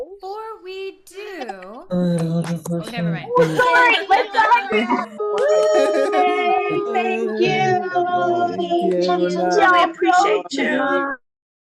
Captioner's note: applause